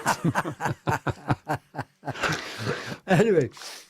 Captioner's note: laughter